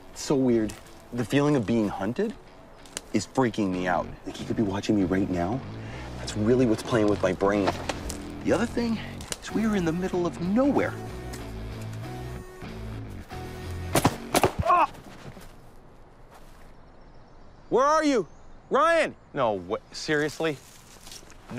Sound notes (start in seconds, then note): 11.1 energetic music; 13.9 gun banging